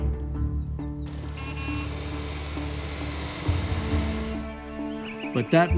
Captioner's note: horn honking, tractor rumbling